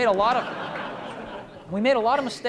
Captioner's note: laughter